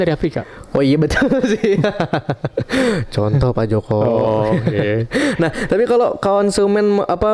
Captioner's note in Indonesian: tertawa